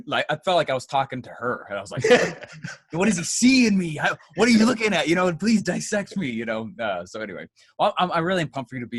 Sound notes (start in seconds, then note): 2.0 laughs